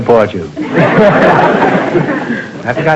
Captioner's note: audience laughter